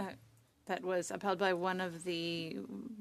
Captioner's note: speaking French